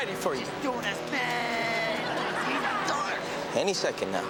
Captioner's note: audience laughs